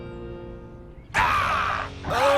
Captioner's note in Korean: 포효하는 소리